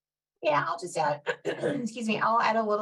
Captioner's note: coughs